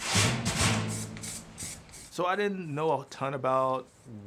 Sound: tub banging

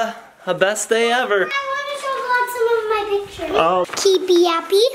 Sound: children mumbling

